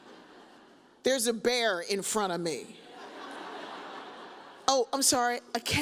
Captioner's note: audience chuckles